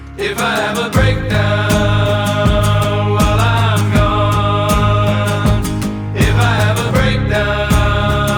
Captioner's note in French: chant